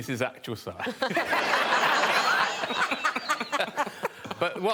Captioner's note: all laughing